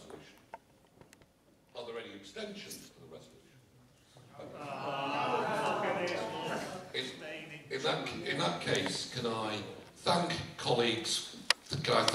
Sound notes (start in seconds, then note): 4.4 groans from audience